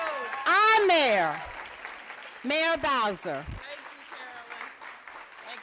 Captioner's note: applause